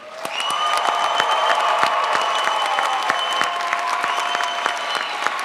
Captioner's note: crowd applauds